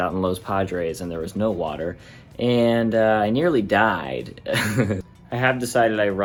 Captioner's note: laughs